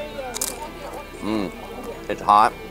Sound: crunching

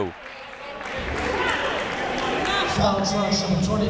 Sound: chatter

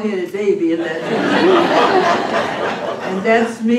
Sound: laughter

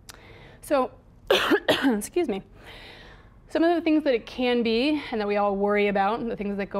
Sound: coughs

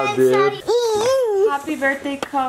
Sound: coos

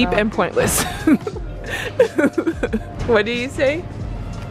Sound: laughs

